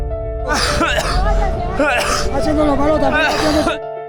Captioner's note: coughing like crazy